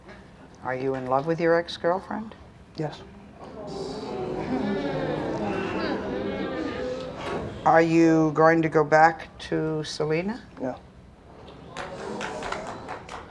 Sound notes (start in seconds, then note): 3.3 audience groaning and mumbling; 11.4 few random claps and whispering in audience